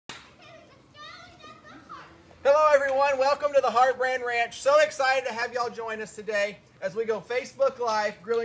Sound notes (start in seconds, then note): 0.2 children voices